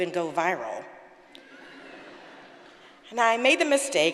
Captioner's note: audience laughing